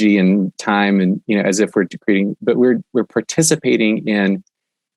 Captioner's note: murmurs